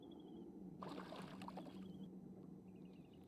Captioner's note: splash